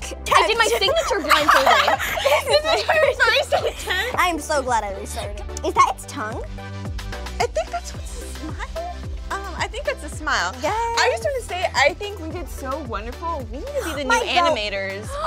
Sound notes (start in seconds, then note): 2.1 laughing